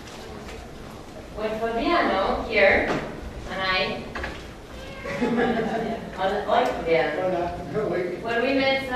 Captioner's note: laughs